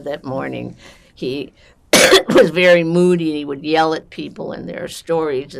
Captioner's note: coughing